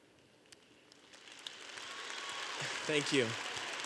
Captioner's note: audience applause